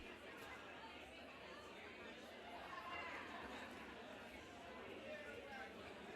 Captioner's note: background talking